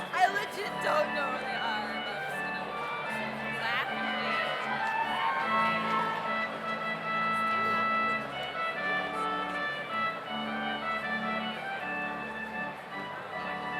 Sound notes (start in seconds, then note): 4.8 audience cheers; 8.6 slow organ music continues